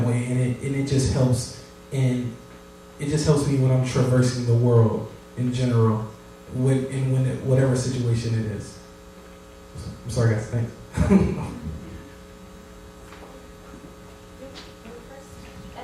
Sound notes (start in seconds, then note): 11.0 chuckles